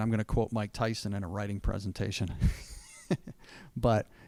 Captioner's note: laughing